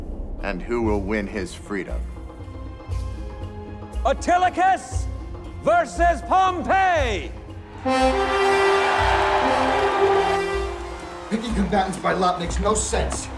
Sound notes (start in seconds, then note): 7.6 crowd cheering; 7.8 horns blowing